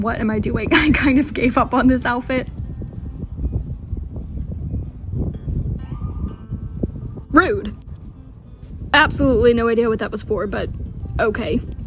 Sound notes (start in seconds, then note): 0.7 laughing; 5.5 single car siren goes off in distance and echoes